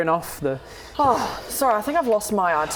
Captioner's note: sigh